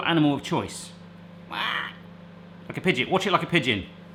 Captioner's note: quacking